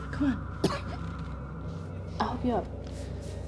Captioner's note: Claire coughs